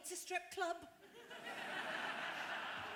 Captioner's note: laughter